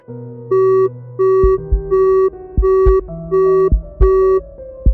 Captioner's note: beep-beep-beep-beep